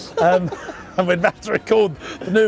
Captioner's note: laughs